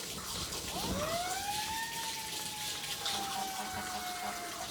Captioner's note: sirens blaring